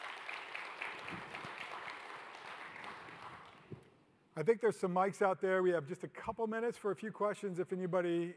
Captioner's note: applause